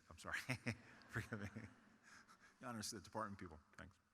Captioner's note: chuckles